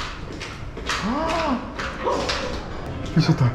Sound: screaming

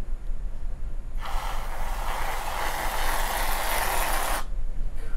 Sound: Reddi-wip spraying

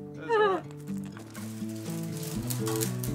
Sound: laughs

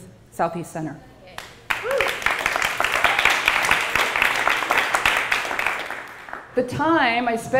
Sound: applause

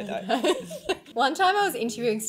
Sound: laughing

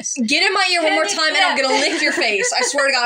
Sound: laugh

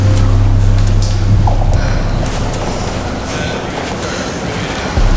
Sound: faint breathing

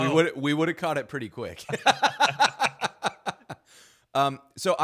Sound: laughing

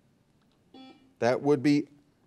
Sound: buzzer dings

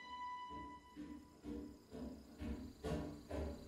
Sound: footsteps ascending

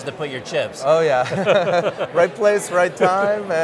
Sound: laughs

